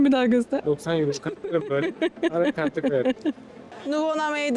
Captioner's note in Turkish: kahkaha